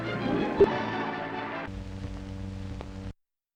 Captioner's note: buzzing